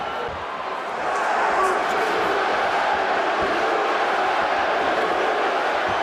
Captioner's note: crowd chanting